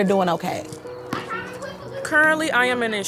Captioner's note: children chattering